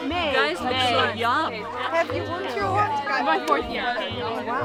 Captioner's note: women chattering